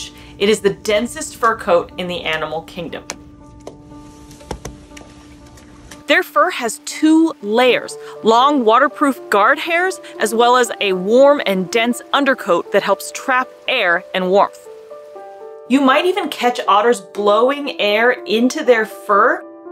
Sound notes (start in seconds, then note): 3.1 background music; 4.3 sound of KP softly tapping an otter's back; 5.2 background music; 14.8 background music; 19.4 background music